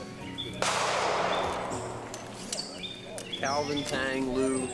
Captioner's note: gun shot